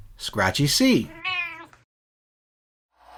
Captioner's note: meow